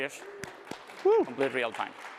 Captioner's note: applause